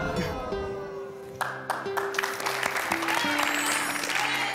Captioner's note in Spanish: Aplausos